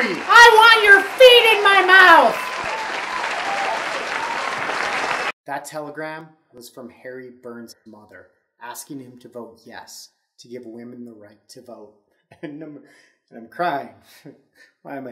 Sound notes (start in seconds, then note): 2.7 crowd cheering; 12.2 laughs